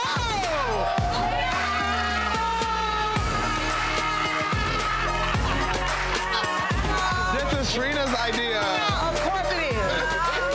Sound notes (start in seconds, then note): 1.7 screaming